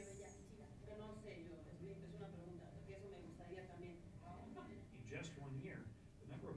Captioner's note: parent speaking in foreign language